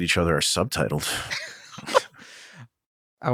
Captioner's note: laughter